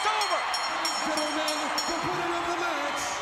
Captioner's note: bell ringing